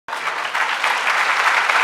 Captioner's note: applause